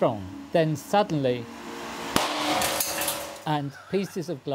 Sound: glass tube bursts

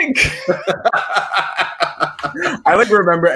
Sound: both chuckling

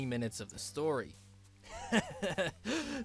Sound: sardonic laughter

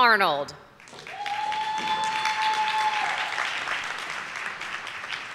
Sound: audience applauding

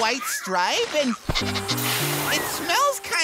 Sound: sniffing

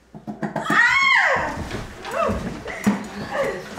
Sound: scream

